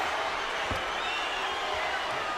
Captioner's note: crowd cheering